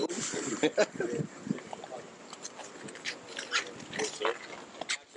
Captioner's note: indistinct conversation; laughing